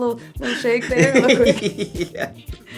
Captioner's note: laugh